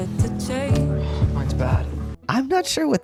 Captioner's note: sigh